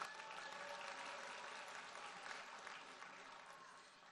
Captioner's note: audience applauds